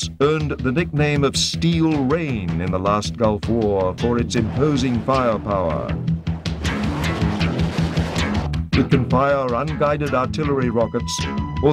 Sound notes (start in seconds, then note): 6.6 rocket whooshing